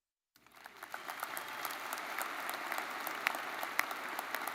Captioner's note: crowd applauding